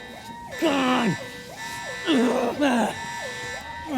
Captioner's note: continues groaning